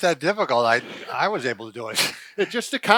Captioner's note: laughing